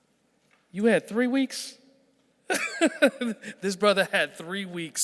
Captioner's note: laughing